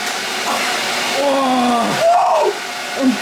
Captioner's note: screams suprised